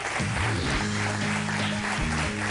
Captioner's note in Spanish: aplausos